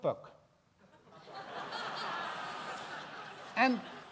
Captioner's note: gelach